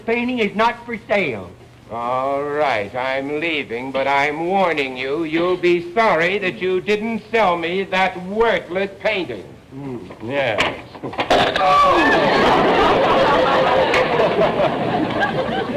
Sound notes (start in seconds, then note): 11.0 crack; 11.8 audience laughter